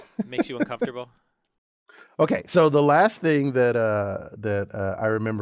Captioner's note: laughs